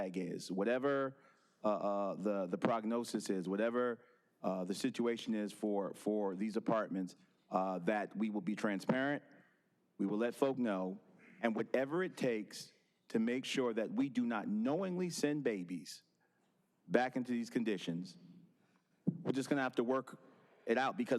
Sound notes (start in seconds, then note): none